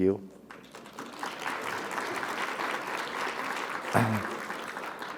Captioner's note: audience applauding